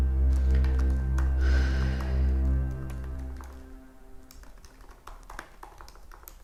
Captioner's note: keyboard clacks; Leona sighs